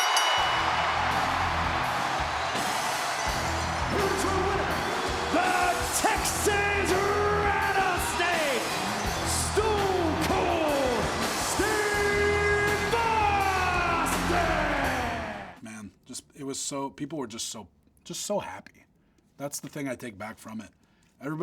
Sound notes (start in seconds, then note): 0.0 bell dinging; 2.2 upbeat music; 13.0 crowd cheering